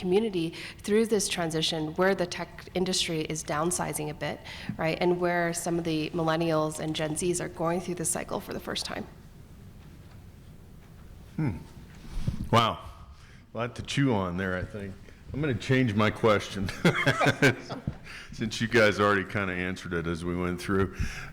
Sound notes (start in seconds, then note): 16.6 laughing; 16.7 laughs